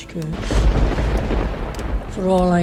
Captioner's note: thunder claps